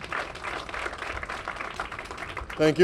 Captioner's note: applause